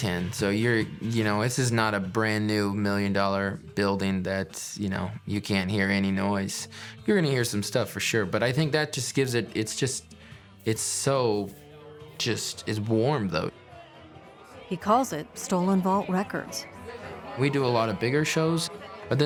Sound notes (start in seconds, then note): 13.7 background chattering